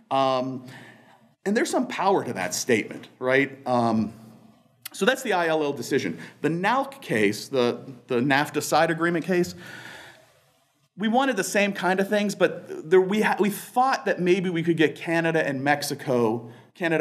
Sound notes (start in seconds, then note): none